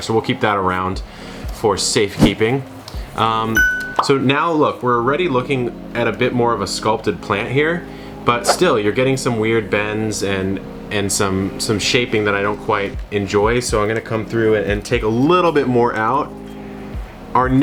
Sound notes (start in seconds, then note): 2.1 logo whooshes; 3.5 bell dings; 4.5 bubbles pops